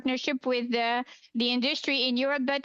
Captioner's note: speaking French